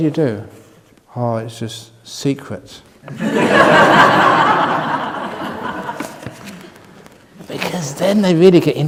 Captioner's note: laughter from the audience